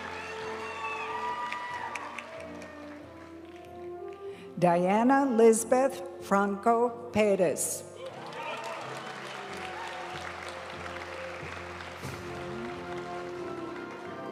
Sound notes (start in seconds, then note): 0.0 graduation music; 8.0 audience cheering and applauding; 11.2 graduation music